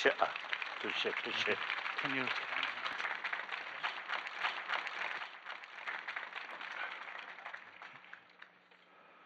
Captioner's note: clapping